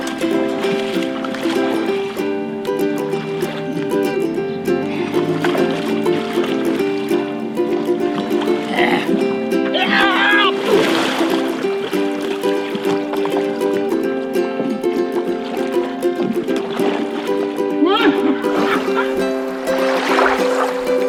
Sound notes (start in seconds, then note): 0.1 upbeat music; 9.7 Jake screaming; 18.3 Jake yelping